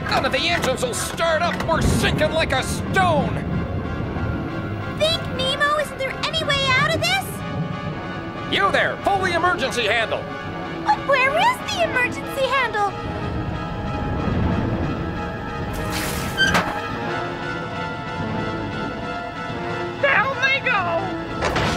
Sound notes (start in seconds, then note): 16.7 creaking